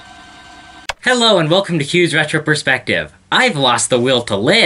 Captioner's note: TV remote click